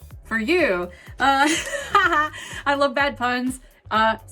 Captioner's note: laughs